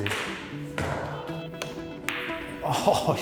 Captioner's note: balls cracking; light music; both laughing